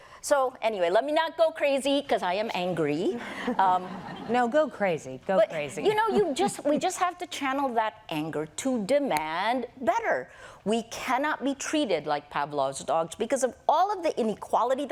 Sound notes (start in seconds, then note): 3.5 laughter